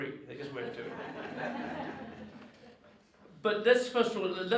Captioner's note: audience laughs